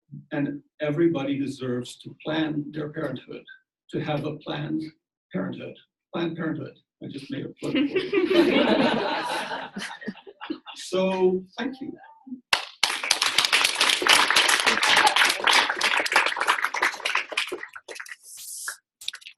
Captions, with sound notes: And everybody deserves to plan their parenthood, to have a planned parenthood. Planned parenthood. I just made a point there. (audience laughs) So, thank you. (audience applauds)